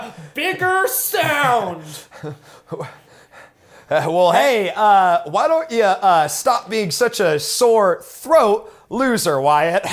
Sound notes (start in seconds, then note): 3.1 stammering